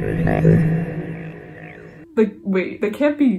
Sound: alien sounds

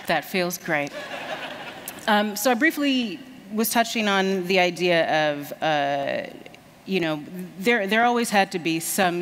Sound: laughter

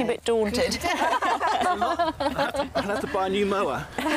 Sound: all laughing

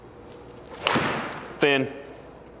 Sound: ball thuds

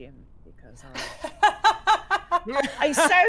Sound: players laughing

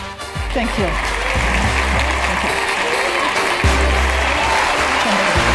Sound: applause

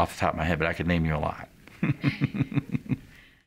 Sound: laughs

